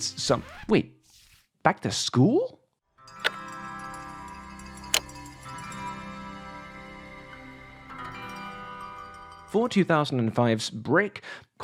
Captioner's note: record scratch